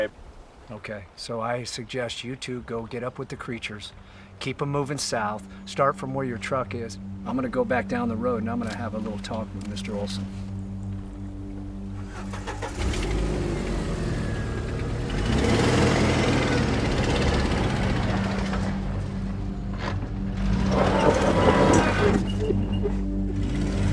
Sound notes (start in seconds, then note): 12.2 Jeep starts; 12.2 suspenseful music; 20.4 gravel scatters